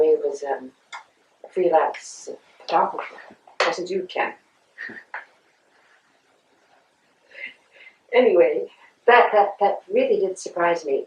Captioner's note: laughter